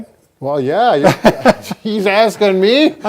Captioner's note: both laughing